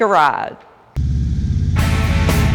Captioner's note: motorcycle engines revving; upbeat music